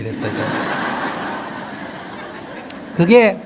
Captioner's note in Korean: 청중 웃음